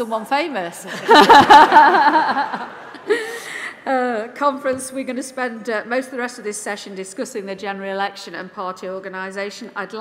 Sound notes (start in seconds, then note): 6.0 laughter